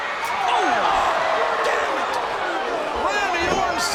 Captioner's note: audience groans